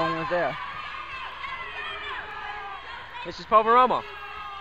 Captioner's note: crowd talking and yelling